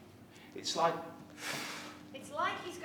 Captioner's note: he inhales